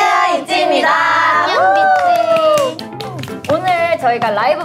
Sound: applause

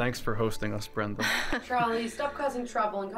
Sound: Brenda chuckles

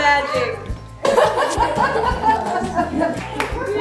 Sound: laughing

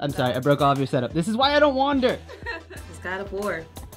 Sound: laughing

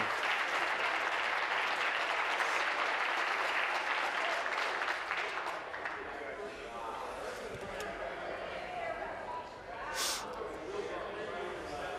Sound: applause

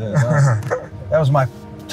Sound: laughs

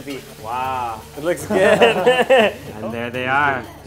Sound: laughing

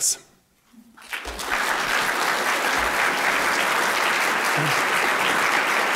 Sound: applause

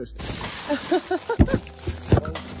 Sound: laughter

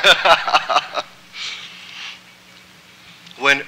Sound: laughter

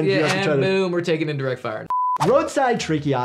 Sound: beep

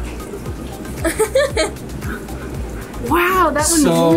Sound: laughs

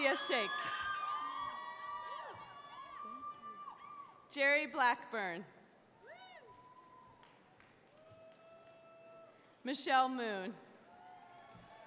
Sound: cheers and applause

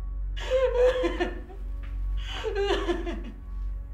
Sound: linda sobbing

